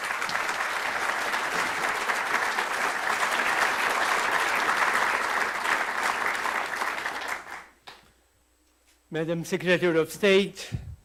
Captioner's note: applause